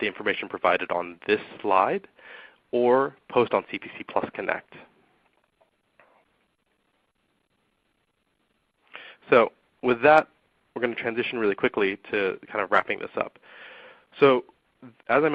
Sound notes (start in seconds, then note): 6.2 silence